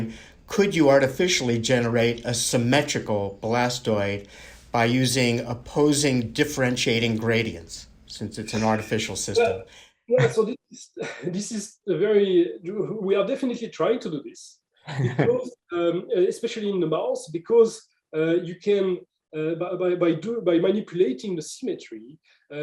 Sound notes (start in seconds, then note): 10.8 laughter; 14.8 laughter